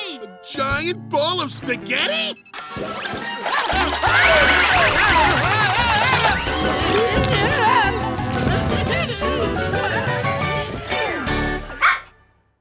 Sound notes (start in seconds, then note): 4.0 screaming; 7.1 moaning; 11.8 barking